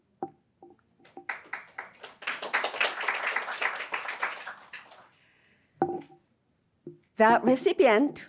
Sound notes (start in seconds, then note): 1.2 audience applauding